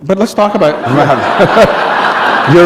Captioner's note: laughter